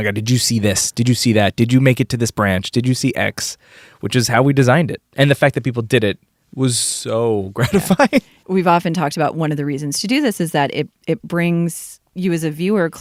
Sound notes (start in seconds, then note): 7.6 laughs